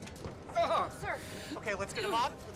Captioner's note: gasps